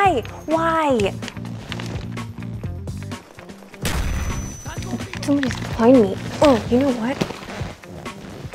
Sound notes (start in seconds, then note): 3.8 explosion